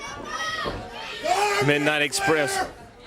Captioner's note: crowd chatter